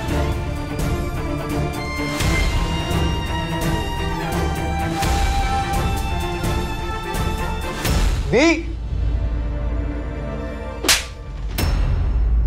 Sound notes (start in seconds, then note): 1.8 sentimental music playing; 10.8 slapping sound